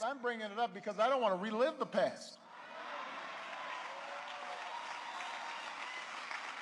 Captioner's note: applause